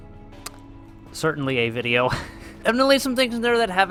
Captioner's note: laughs